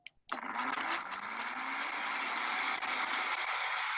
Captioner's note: blender chopping